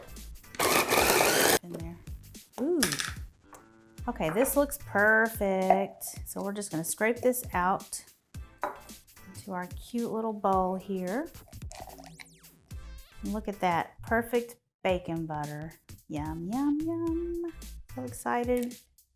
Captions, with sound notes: (processor grinding) Ooh, okay, this looks perfect. So we're just gonna scrape this out into our cute little bowl here. And look at that, perfect bacon butter, yum yum yum, get excited.